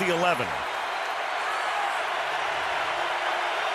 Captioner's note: crowd cheering